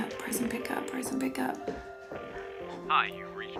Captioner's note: phone ringing